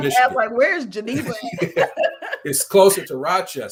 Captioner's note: laughing